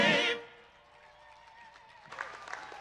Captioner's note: applause